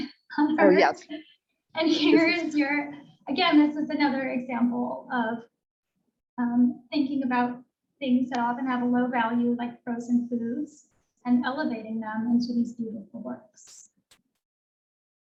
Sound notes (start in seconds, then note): 2.0 laughs